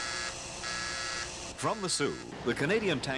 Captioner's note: buzzing